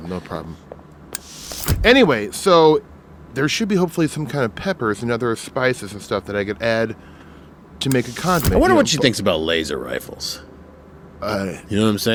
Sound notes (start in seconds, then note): 1.1 door hissing shut; 7.8 door hissing open